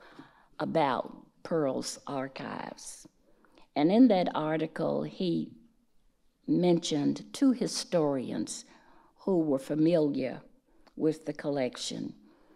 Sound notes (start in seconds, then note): none